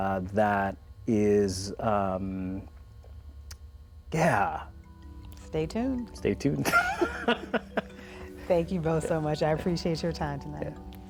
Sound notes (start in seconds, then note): 6.7 laughs